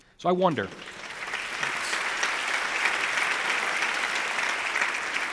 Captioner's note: audience applauding